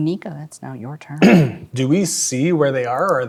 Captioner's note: clears throat